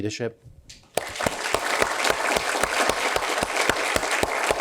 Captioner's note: applause